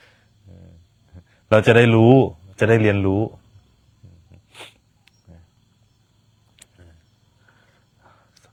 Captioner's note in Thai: เสียงสูดหายใจ